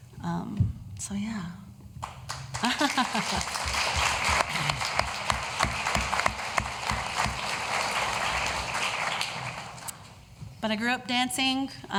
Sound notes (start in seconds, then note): 2.0 applause